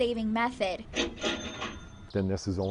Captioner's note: cash register sound